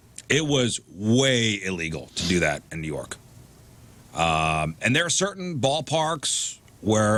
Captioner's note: none